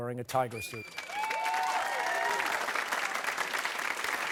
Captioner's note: cheers and applause